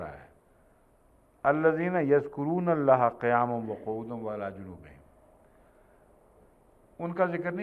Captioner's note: Arabic